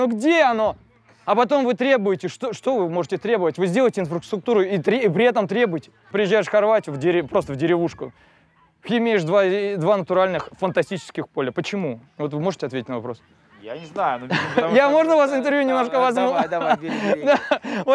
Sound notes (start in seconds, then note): 16.1 laughs